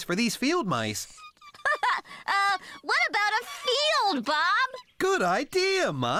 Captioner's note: laughing